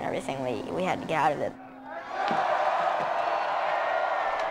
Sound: cheering

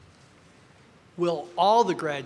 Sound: none

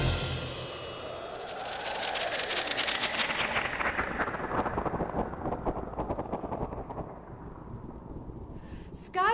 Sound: musical flourish; wind blowing

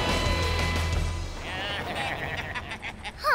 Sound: baaing

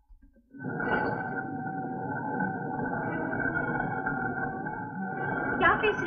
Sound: grinding

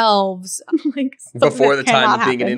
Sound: laughing

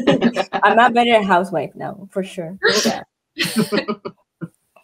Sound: laughs

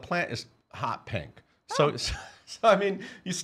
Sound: laughing

